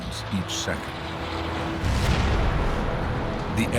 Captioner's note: fuel igniting